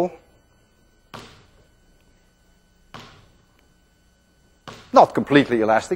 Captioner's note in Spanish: pelota rebotando